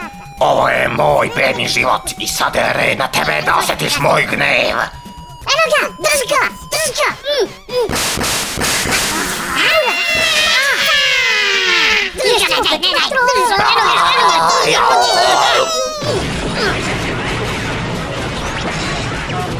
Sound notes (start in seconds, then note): 7.9 shooting; 9.2 scream of clones; 12.1 chaotic shouting and yelling